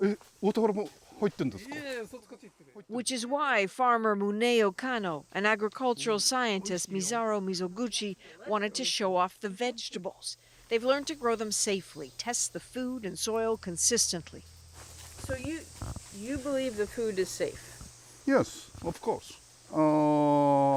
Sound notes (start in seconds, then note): 3.3 speaking Foreign Language